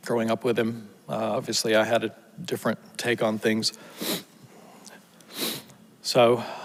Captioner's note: sniffles